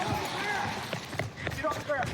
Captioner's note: footsteps running